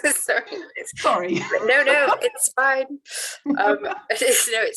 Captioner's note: laughs; laughs